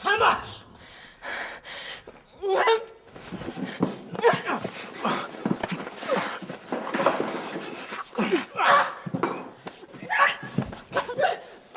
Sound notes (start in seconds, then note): 2.9 scuffling sounds; 8.5 crying; 8.5 stifled scream